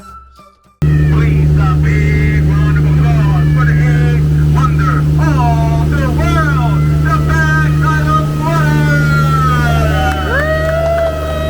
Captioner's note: cheering